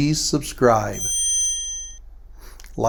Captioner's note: bell chiming